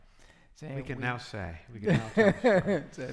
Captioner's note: laughing